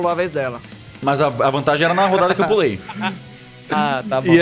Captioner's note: laugh